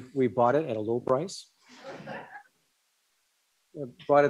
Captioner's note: laughter